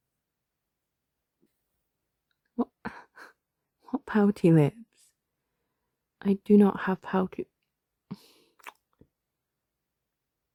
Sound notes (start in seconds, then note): 8.6 kiss